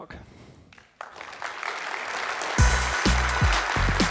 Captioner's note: applause